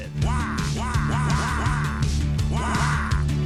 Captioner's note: wahs